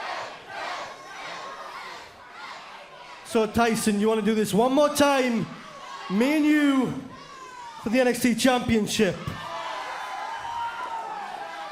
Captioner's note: fans chanting